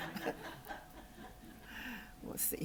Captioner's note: laughter